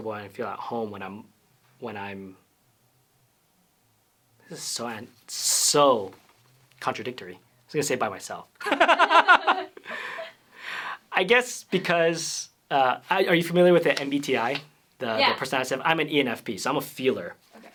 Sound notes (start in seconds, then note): 8.6 laughs